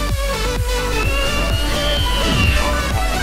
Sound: chimp Screech

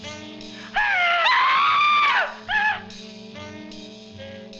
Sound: screaming

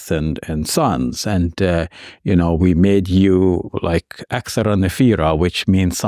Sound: speaks in Arabic

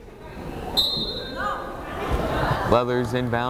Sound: whistle blows

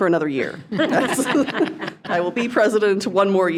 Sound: attendees laughing

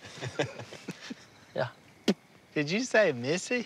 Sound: laughter; spits

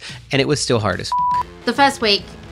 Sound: beep

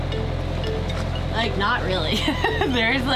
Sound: laughs

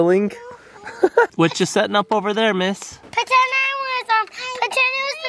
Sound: laughs

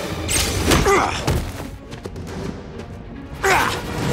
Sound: grunts

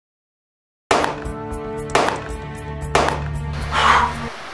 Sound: gun shot sounds

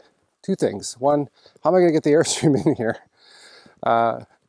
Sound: chuckles

